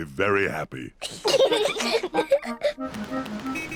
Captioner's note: both giggling